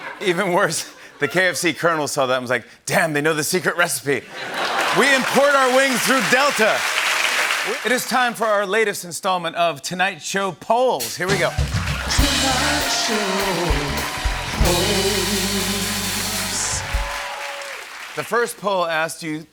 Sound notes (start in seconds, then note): 16.9 cheers and applause